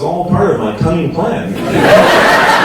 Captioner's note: audience laughs